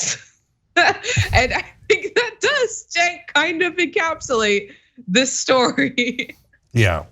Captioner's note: laugh